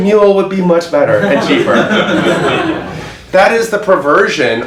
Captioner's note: audience laughs